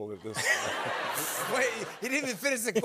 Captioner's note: laughter